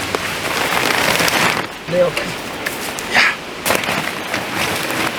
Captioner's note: tarp collapses